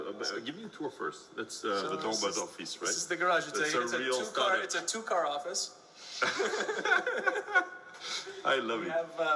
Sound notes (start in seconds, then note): 6.2 employees laugh softly